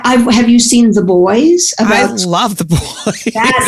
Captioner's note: laughs